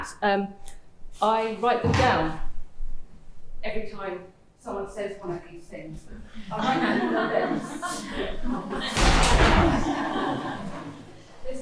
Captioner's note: laughter